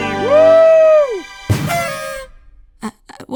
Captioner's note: party horns